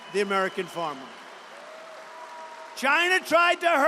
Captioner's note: applause